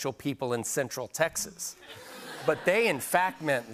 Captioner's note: laughter